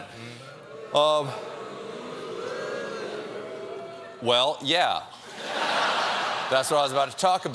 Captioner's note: audience booing